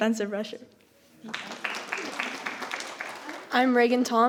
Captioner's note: audience applauding